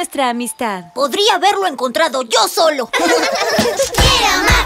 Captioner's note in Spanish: Risas